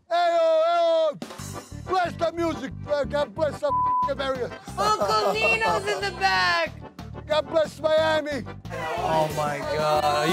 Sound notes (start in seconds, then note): 3.7 beep